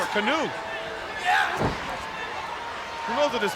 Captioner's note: body slamming